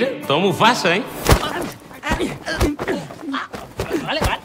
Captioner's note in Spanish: Golpes